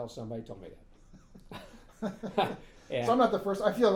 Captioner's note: laughing